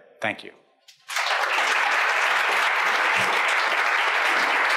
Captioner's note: audience applauds